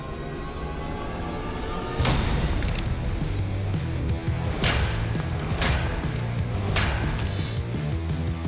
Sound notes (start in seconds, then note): 2.0 ice shattering